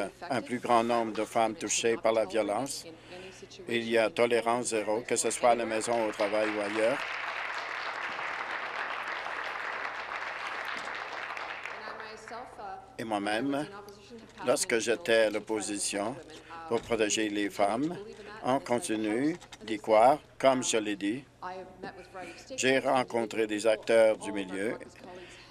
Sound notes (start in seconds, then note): 9.5 applause